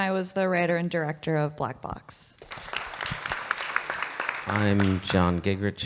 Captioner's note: audience clapping